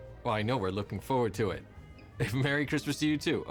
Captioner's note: none